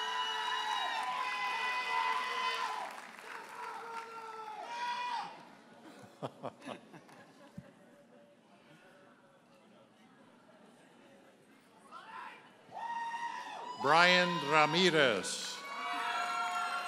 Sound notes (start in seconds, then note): 0.0 audience hollers and applauds; 6.9 audience chuckles; 16.6 audience members holler and applaud